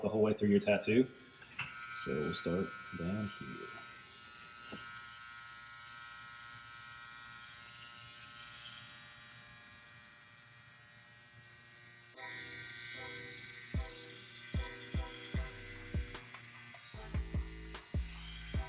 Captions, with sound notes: the whole way through your tattoo. So we'll start down here. (tattoo gun buzzing) (tattoo gun buzzing) (slow groovy music)